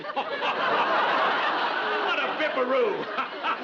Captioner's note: laughing